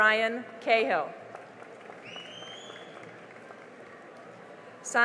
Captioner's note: cheering and applause